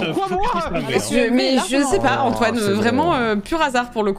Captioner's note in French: bégaye fort